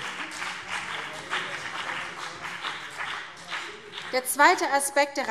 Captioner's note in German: Beifall BÜNDNIS 90/DIE GRÜNEN